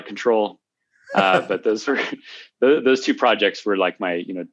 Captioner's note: laughter